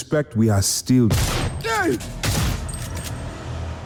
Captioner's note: gunshots